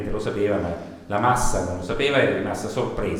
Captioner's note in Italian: none